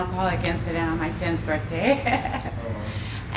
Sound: chuckling

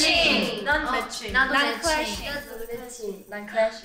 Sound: speaking in Korean

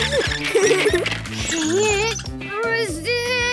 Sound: laughing

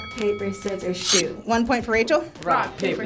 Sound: scissor swishes

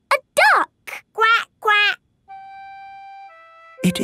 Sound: quacking

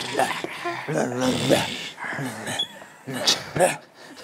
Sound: in zombie language

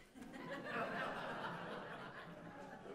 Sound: audience: Laughter

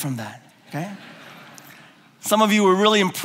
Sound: laughing

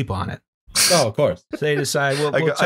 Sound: laughter

